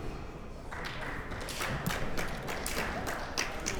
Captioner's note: clapping